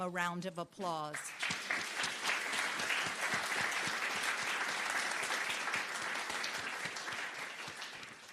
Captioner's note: applause